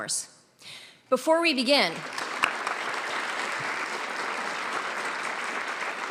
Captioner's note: audience applauding; claps